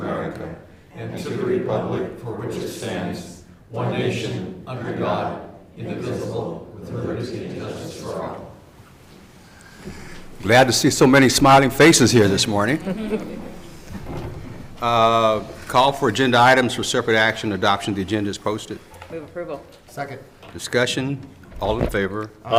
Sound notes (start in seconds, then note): 11.7 crowd mutters